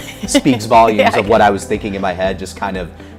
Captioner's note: laughs